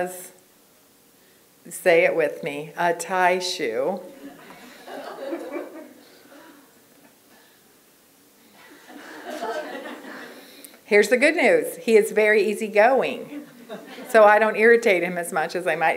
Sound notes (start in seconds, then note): 8.6 laughter